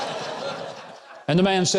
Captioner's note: audience laughs